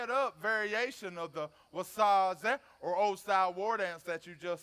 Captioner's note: speaks foreign language